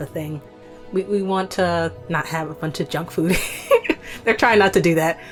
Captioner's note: chuckles